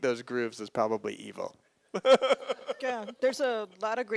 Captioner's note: laughs